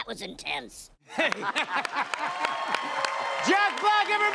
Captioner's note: both laugh